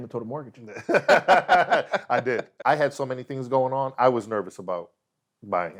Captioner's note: laughs